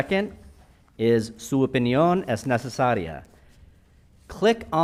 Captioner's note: speaking in Spanish